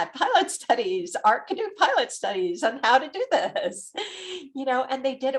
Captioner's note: laughs